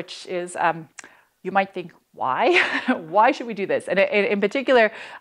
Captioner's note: laughter